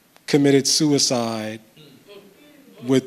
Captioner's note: audience expresses dismay